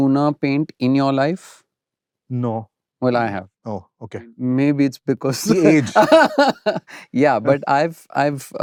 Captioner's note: laughter